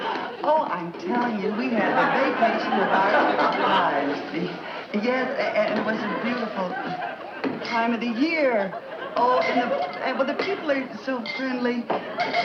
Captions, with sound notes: Oh, I'm telling you, we had the vacation of our lives. [Audience Laughing] Yes. And it was a beautiful time of the year. Oh, and well, the people are so friendly.